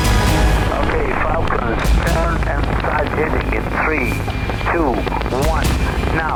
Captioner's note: pilots speaking over radio